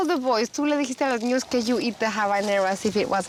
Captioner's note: speaks spanish